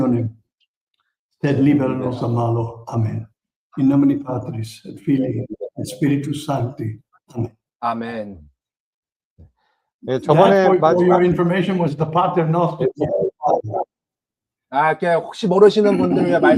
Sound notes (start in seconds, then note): 3.0 prayer continues in Latin